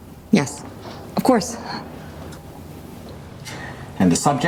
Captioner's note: chuckles